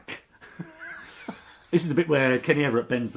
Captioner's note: laughs